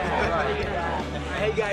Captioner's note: laughter